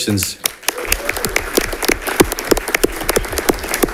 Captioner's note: audience clapping